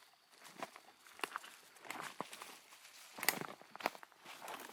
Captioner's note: footsteps pattering